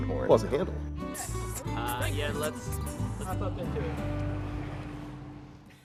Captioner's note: voiceover; rising electronic music